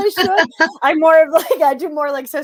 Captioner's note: both laughing